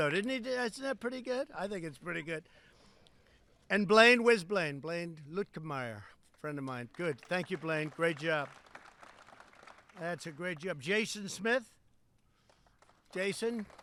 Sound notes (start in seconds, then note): 8.9 applause; 12.4 applause